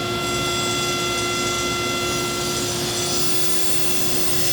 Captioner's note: cutting into wood